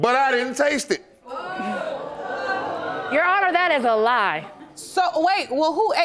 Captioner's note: audience gasping